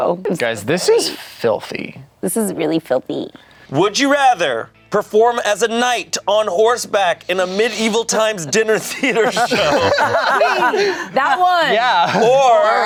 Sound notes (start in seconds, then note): 9.7 everyone laughs